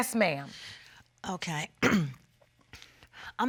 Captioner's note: clears throat